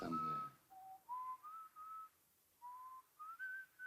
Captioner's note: Harry whistles